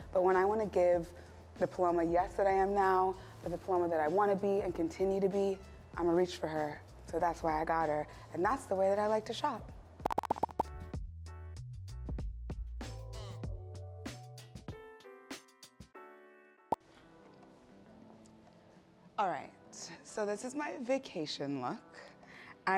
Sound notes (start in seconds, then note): 16.0 pop; 18.6 soft music plays